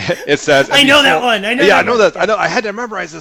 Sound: laughs

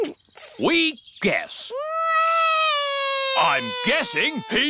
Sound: alexander wails

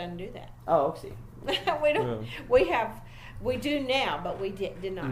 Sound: laughs

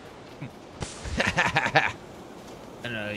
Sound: laughing

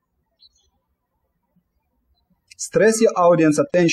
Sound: birds chirping

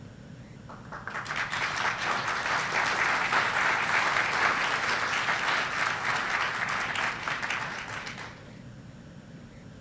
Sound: applause

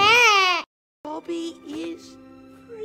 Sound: crying

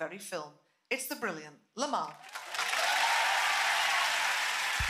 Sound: applause

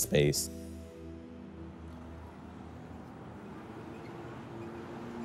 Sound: traffic rumbling quietly

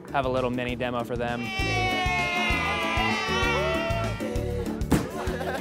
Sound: cheering

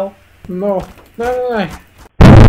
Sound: crowbar hitting wood

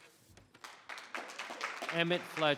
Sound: audience clapping

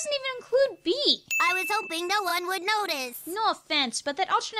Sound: bee-like voice

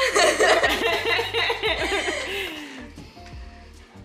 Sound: laughing

